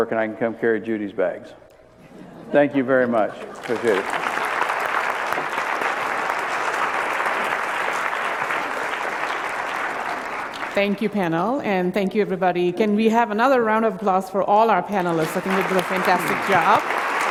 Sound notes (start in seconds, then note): 3.5 applause